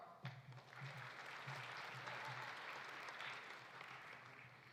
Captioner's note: audience applauding